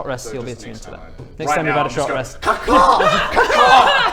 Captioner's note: ca-caw!